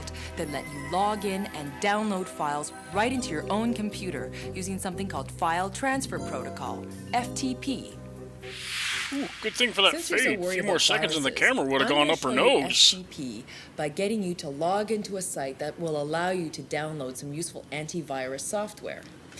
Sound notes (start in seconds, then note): 8.6 whoosh